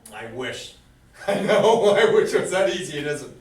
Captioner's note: laughs